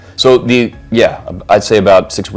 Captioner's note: none